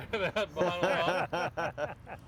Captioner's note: laughing